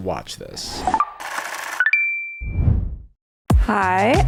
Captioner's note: machine whirring